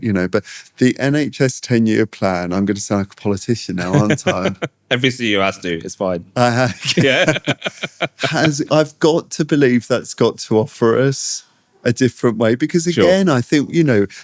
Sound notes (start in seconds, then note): 6.6 laughter